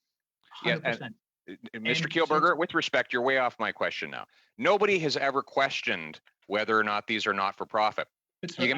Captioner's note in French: voix de l'interprète